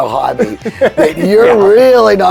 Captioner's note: laughing